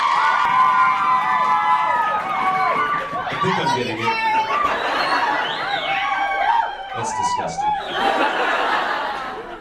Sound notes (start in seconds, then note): 0.0 audience still screaming and cheering; 5.1 audience screams and cheers; 7.8 audience laughs